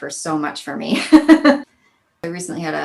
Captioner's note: laughs